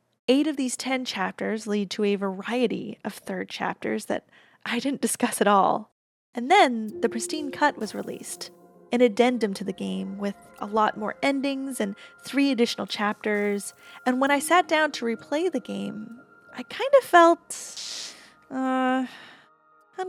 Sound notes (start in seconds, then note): 17.6 static